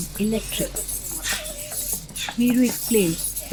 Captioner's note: iron chains clanking